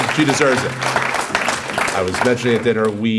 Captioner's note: applause